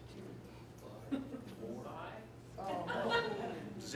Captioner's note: laughter